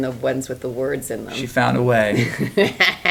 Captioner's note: laughs